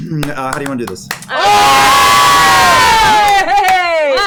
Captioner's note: cheering